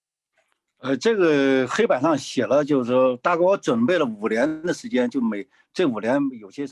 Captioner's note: speaking in foreign language